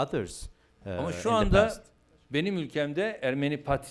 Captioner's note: non-english speech